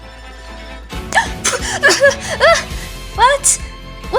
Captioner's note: gasp